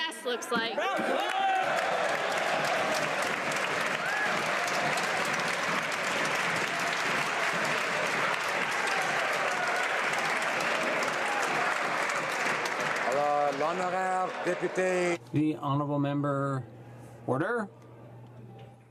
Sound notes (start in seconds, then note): 4.1 some Applause